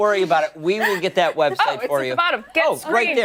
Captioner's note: laughter